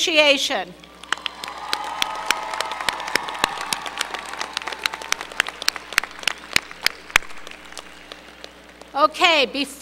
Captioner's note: applause